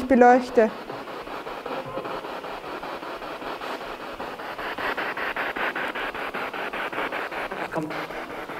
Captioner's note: noise of the spiritbox in the background